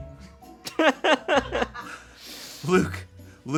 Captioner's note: crew laughing